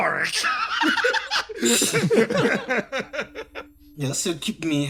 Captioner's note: laughs